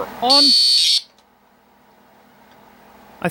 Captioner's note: electronic Buzzing Sound